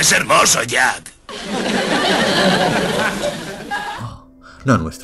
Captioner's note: canned laughs